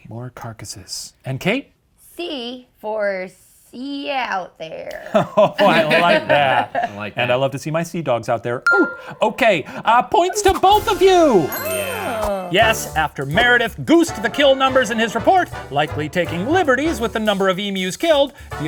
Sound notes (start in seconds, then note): 5.0 laughs; 8.7 bell rings; 11.3 triumphant music